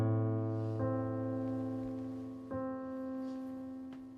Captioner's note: rustling